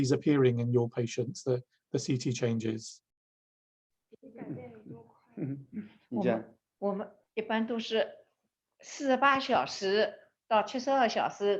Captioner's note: Chinese